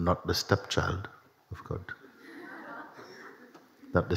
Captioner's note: laughter